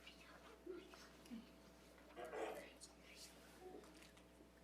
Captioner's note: group whispering